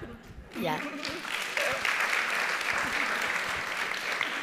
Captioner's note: audience applauding